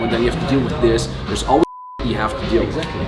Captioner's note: beep